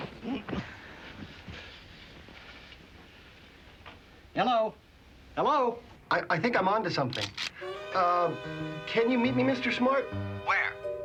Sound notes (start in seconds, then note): 7.2 gun clicks